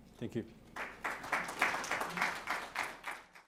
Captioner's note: audience applauds